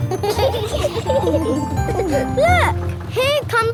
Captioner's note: kids giggling